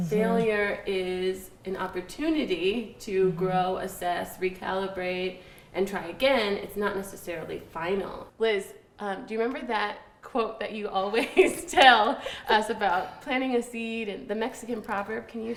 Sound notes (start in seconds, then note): 11.7 laughs